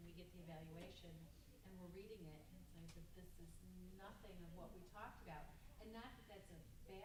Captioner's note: none